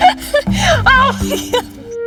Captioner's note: Nicole shouts